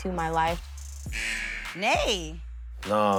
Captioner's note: buzzer rings